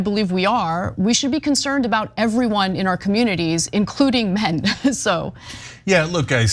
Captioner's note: laugh